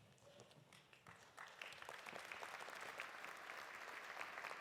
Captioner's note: audience applauding